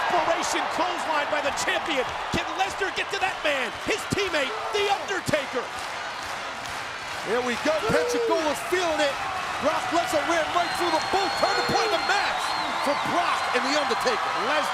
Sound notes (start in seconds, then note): 6.2 audience clapping